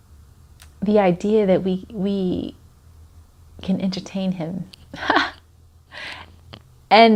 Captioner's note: laughs